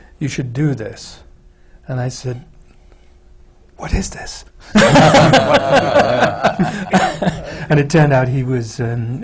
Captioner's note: laughter